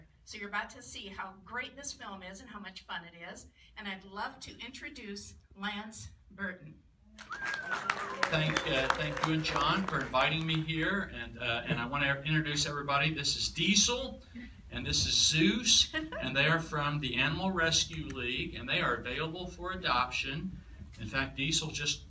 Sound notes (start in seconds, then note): 7.2 applause